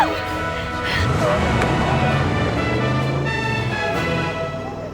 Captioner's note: red truck roars away